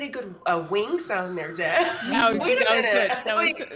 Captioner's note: bird squawks